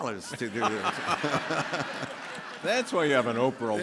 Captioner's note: all laughing